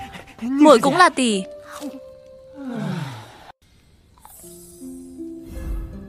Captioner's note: sigh